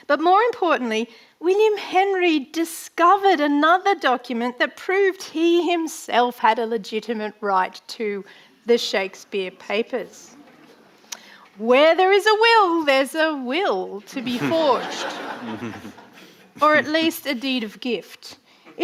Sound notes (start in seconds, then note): 14.1 audience laughing